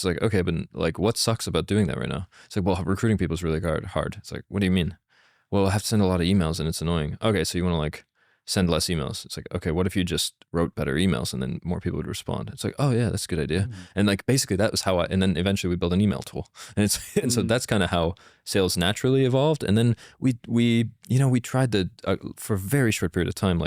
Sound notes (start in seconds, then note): 16.9 laughs